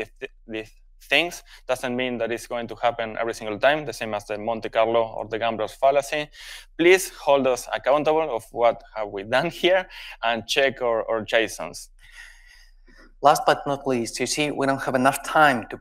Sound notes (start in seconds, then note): none